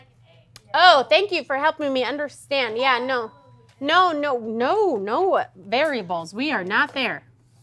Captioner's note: ding